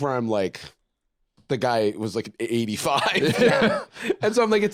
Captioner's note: laughs